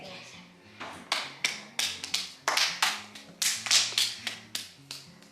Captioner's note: hands smack each other